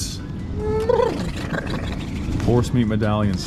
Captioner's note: imitates hore neighing